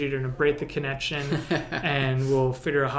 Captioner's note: laughs